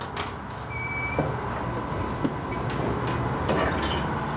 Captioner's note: window squeaks